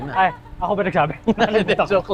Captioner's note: laughs